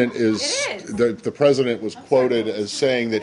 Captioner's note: laughter